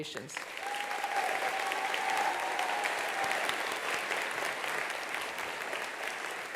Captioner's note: attendees applauding; attendees cheering